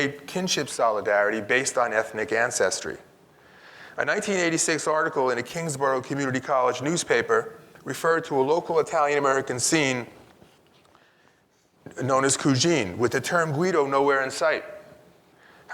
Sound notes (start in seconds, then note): 12.2 speaks in Italian